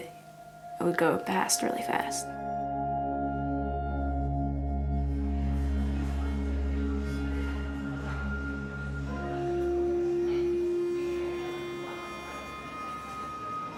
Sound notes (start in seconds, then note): 5.2 busy café noise